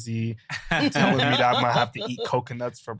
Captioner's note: group laughing